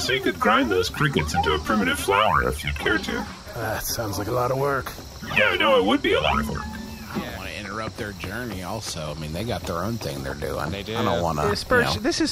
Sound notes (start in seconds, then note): 3.9 sighs